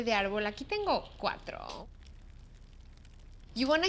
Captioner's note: speaks Spanish